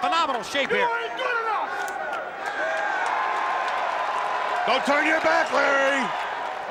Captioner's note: applause